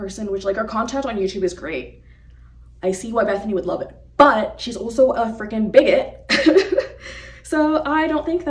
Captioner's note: chuckles